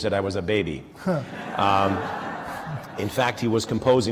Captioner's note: laughter